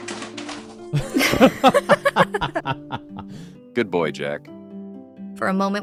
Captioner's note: laughing